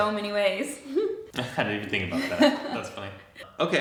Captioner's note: giggles; chuckles